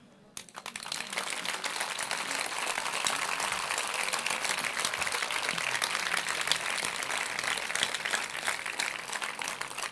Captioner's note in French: Applaudissements